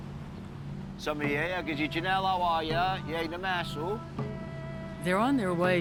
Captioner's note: speaking Passamaquoddy